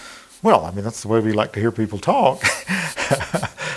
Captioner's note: laughing